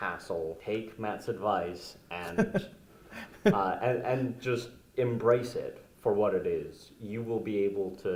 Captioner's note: laugh